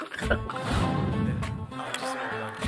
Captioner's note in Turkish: Televizyon sesi